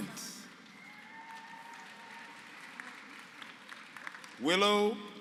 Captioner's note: applause